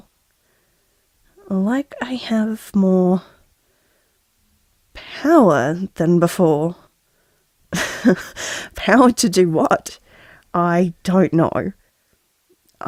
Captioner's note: laugh